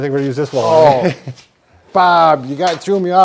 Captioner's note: laughter